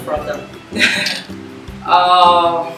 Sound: laughs

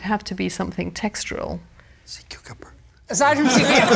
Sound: whispers; laughter

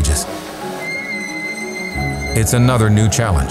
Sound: engine squealing

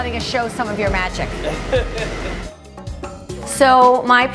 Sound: laughs

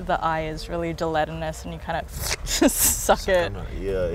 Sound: slurps

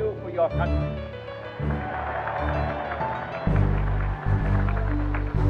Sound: cheers and applause

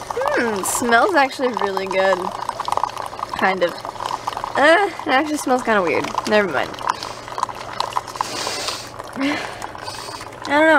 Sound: sniffing

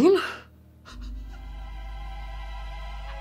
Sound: laughing

